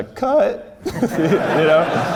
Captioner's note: laughs